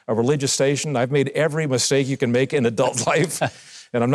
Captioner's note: laughs